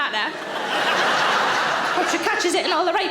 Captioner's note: audience laughing